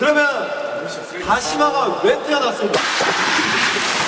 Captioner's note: rubbing